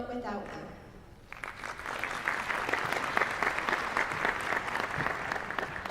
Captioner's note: applause